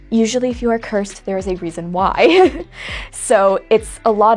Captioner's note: laughs